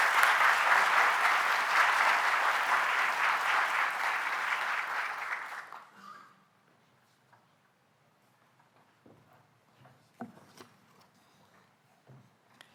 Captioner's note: applause